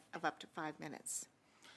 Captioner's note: speaking French